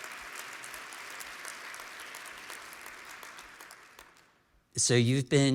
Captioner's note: applause